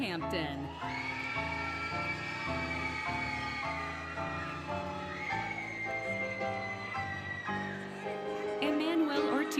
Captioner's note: applause, Cheering, Music